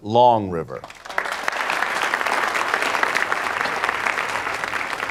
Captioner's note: guests applauding